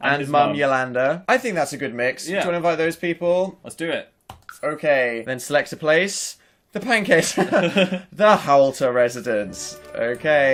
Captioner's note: śmiech